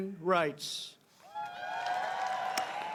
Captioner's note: cheering and applause